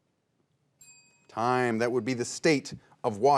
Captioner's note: bell chimes